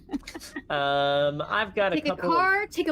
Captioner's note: laughing